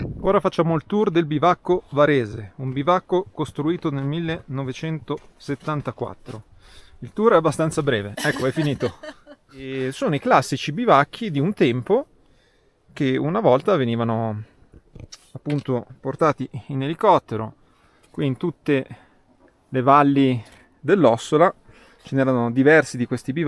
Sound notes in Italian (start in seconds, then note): 8.2 risate